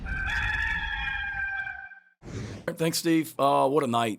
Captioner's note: rooster crowing